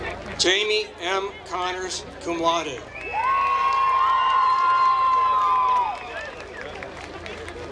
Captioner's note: applause